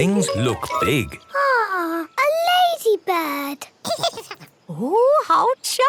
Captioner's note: giggles